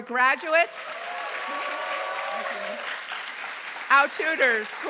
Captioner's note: applause